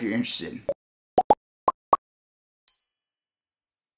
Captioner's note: logo popping